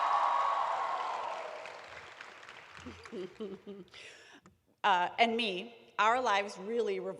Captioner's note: cheering